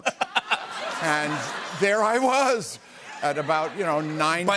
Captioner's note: laughter